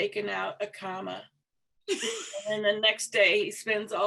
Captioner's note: chuckling